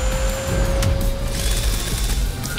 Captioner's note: vacuum roars; whirs